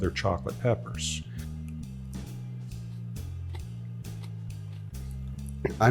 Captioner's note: pepper crunching